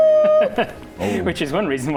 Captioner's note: evil laugh